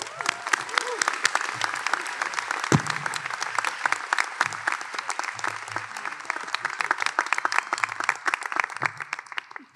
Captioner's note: applause